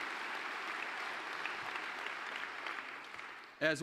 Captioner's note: applause